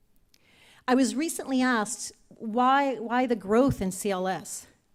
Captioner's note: none